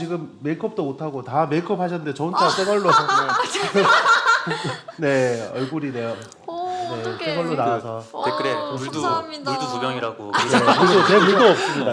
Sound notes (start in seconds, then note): 2.4 laughter